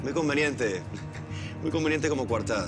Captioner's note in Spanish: Risas